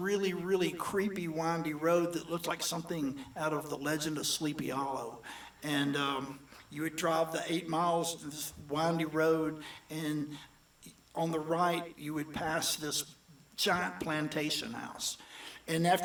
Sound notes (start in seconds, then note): none